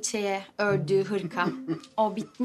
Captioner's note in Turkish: Gülme sesi